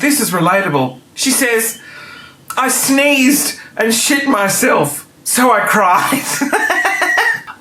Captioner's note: laughing